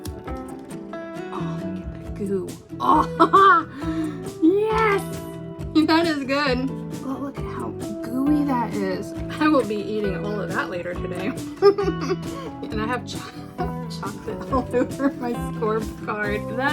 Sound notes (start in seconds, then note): 11.2 giggles